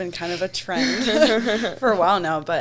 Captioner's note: laughs